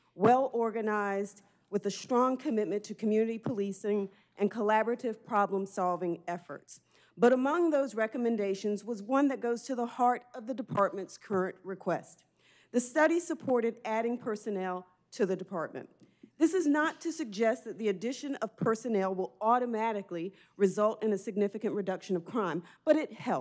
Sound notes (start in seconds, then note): none